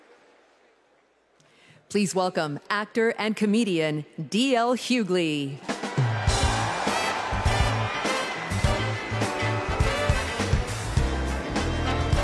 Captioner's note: cheers and applause